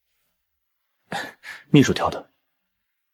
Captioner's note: cough